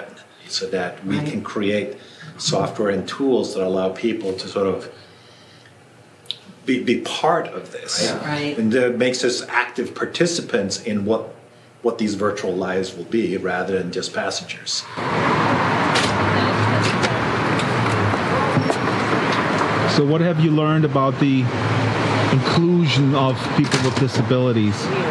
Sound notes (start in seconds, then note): 15.8 street sounds